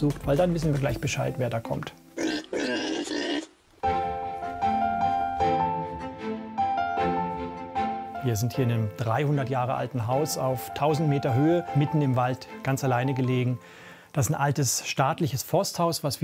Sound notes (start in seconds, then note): 2.2 grunting; 3.9 idyllic music